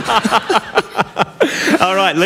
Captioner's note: laughter